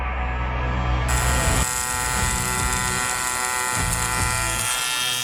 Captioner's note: welder zapping